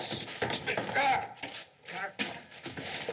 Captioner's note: gasping